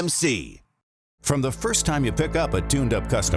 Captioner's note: voiceover